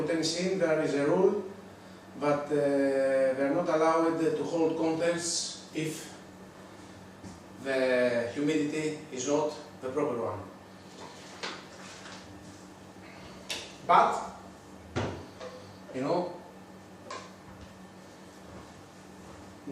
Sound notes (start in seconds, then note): none